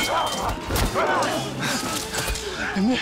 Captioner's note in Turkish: Derin nefes alıyor